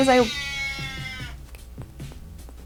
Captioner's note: cat meows loudly; kissy noises